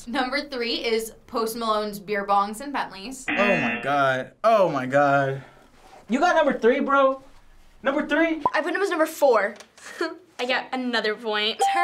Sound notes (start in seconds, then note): 3.3 buzzer; 10.0 chuckles